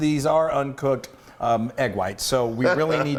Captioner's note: laugh